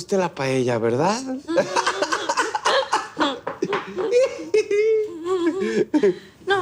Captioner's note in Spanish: Risas